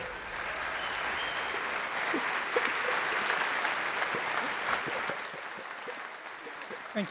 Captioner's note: applause